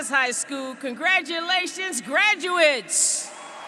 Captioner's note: applause